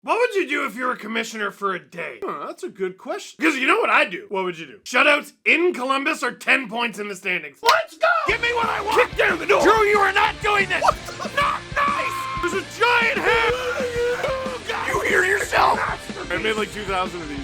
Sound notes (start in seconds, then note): 10.4 screaming; 13.6 Harry potter screaming